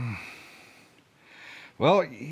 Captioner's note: sighs